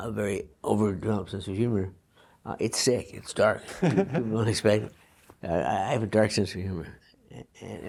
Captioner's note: laughs